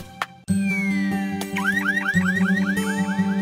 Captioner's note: car alarm